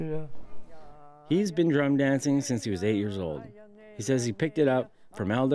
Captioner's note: chanting